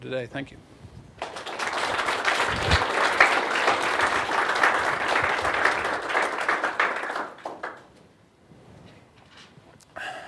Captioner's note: applause